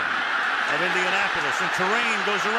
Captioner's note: cheering